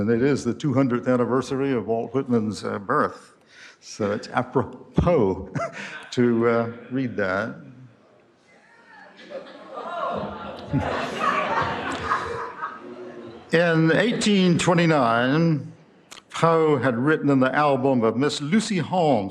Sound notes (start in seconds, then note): 5.5 laughter